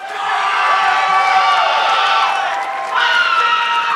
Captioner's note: audience clapping